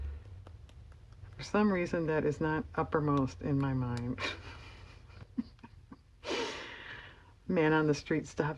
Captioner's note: laughs